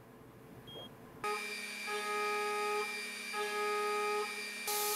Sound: machine whirring

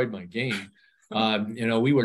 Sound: chuckles

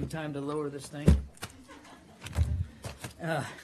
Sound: laughter

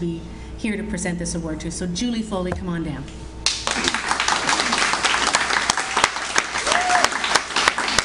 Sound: audience Applauds

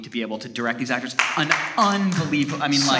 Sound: audience applauding

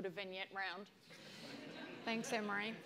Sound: audience laughs

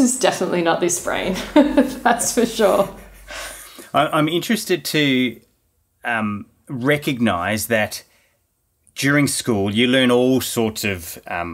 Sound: laughing

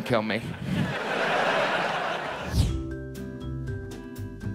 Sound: audience laughs; pleasant music

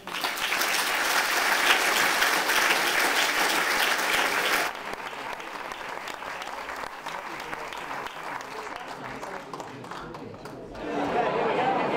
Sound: applause

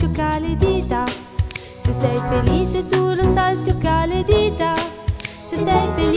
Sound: snap snap; snap snap

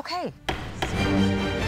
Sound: dramatic music outro; gavel bangs twice

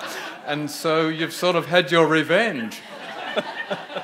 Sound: audience laughing; laughs

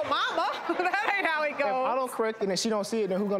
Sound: audience laughs

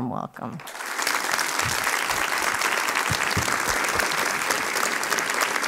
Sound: applause

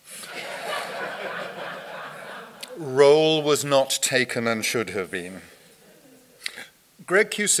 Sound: audience laughter

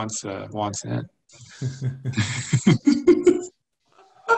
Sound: laughs

